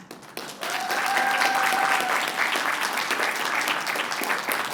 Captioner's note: applause